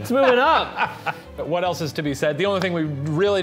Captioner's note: laughing